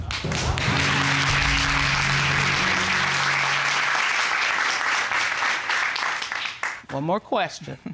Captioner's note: audience clapping